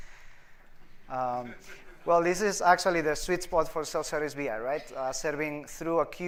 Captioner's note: laughter